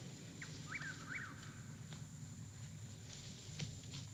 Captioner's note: bird calling